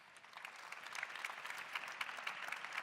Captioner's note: claps